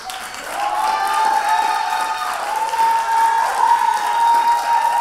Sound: audience applauding

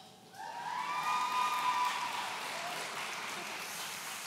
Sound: audience cheering

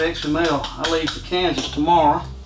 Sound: tapping sound

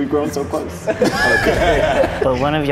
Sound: laughter continues

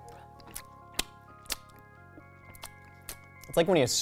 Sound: teeth smacking

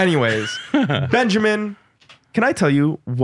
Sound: laughs

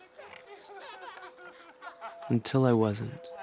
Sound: both laughing

